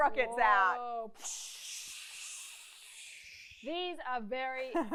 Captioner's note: makes rocket sounds